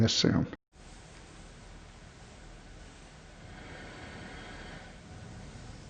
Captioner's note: quiet room with gentle breathing